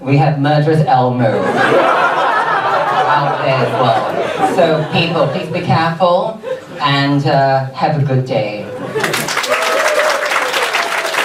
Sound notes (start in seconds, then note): 1.3 audience laughs; 8.9 audience applauds